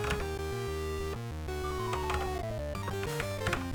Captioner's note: typing on a C64 keyboard